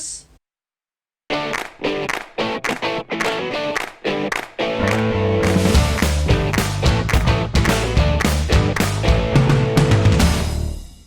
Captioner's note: claps